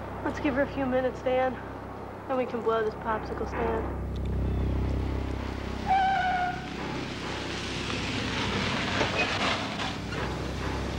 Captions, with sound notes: - Let's give her a few minutes, Dan, then we can blow this popsicle stand. (tense music continues) (tires squealing)